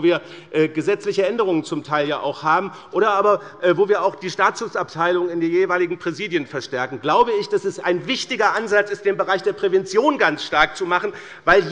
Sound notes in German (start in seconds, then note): none